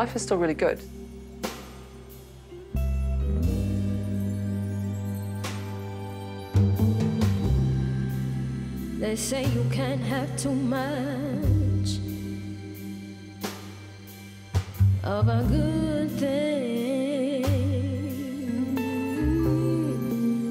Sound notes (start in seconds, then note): none